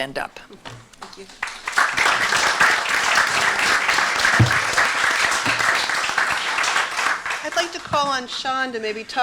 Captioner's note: applause